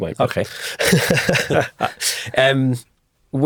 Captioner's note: both chuckle